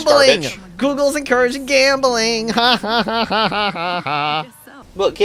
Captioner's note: laughs